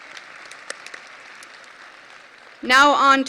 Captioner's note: audience applause